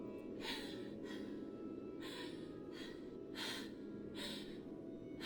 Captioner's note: Connie gasps